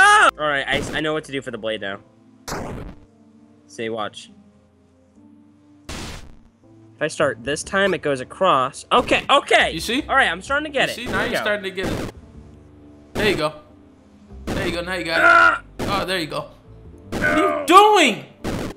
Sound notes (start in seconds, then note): none